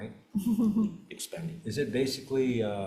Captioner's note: chuckles